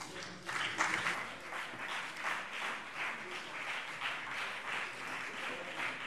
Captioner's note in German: Beifall BÜNDNIS 90/DIE GRÜNEN